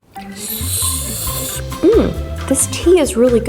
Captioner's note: sips